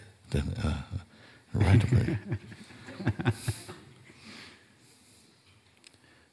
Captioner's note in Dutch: vraagsteller lacht